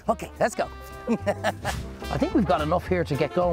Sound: laughs

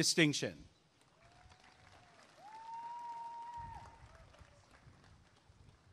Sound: applause and cheering

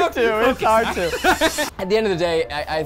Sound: laughing

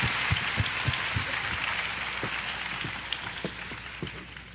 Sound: applause

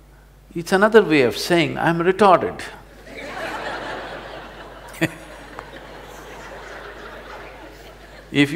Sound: laughter; laughs

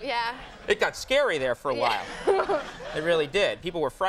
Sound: Molly and audience laughing

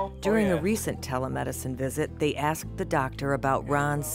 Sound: voiceover

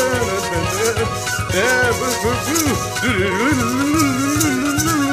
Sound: hums along to theme music

